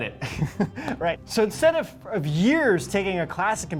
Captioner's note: laughs